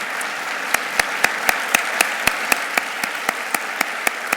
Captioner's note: audience applauding